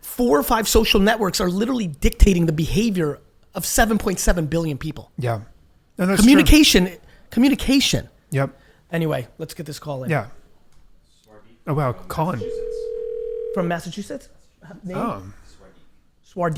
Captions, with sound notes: four or five social networks are literally dictating the behavior of 7.7 billion people. Communication, communication. Anyway, let's get this call in. - Oh wow, call in. (phone ringing) - From Massachusetts? Name.